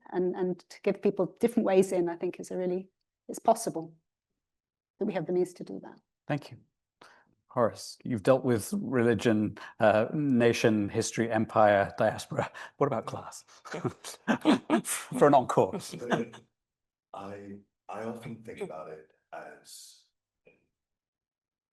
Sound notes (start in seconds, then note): 13.9 panelists chuckling